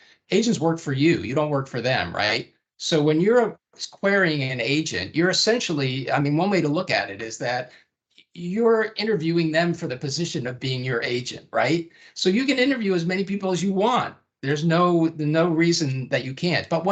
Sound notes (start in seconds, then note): none